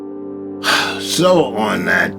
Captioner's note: sighs heavily